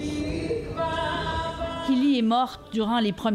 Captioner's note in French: chants